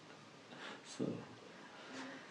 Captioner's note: laughs